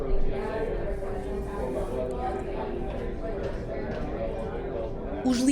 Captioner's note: noise of people talking in a cafe